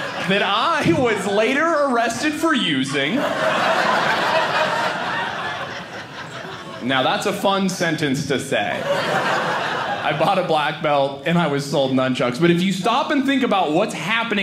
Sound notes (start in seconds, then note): 3.5 audience laughing; 8.6 audience laughing